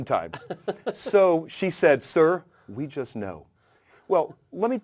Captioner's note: laugh